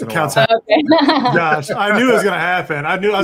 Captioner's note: laughs